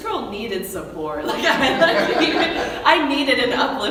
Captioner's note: laughing